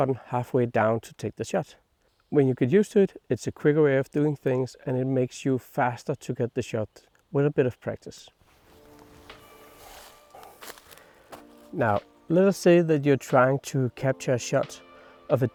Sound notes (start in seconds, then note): 8.4 foliage crunch